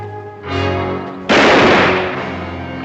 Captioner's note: bang!